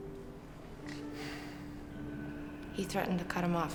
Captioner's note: Jack sighs